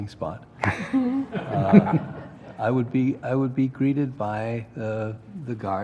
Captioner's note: laugh